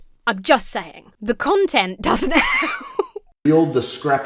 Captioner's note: laughs